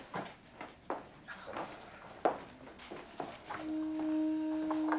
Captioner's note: heels clack